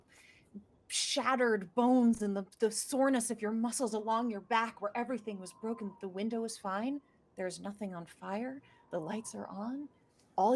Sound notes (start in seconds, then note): none